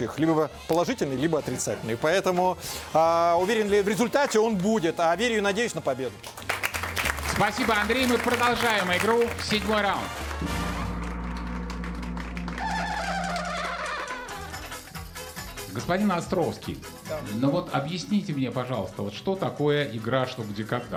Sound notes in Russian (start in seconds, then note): 6.2 аплодисменты